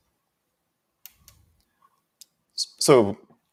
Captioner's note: mouse clicking